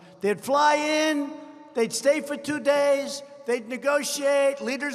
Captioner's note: none